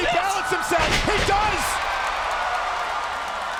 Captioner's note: bodies thud; audience cheering